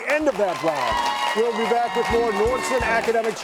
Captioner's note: audience cheering